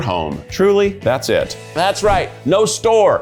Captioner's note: graphics whooshing